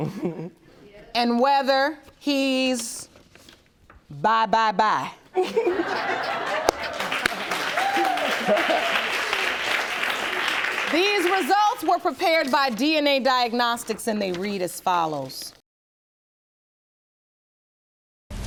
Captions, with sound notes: And whether he's bye-bye-bye. (ALL LAUGHING) (AUDIENCE APPLAUDING) These results were prepared by DNA Diagnostics, and they read as follows. She's the liar, Your Honor.